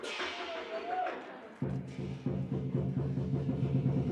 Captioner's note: rhythmic drumming; cymbal clash and cheering; rhythmic drumming